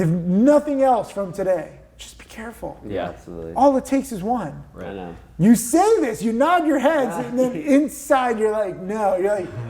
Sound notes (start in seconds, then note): 7.7 chuckles